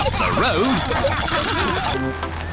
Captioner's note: laughter